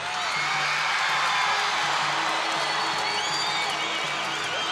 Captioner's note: crowd cheering